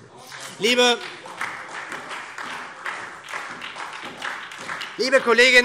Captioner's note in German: Beifall SPD